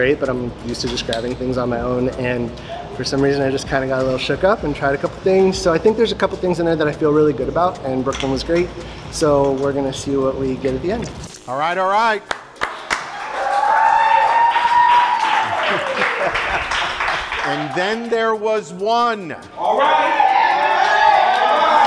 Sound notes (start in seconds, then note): 12.9 cheering; 15.4 laughing